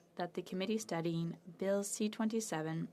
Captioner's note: speaking French